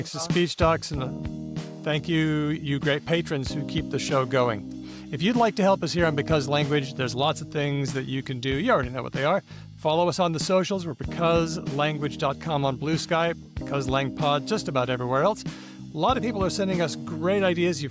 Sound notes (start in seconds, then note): none